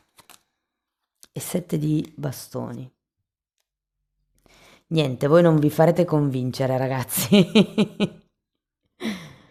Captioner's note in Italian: risate